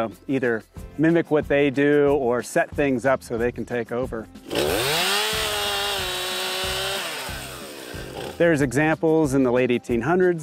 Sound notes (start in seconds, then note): 4.4 chainsaw revving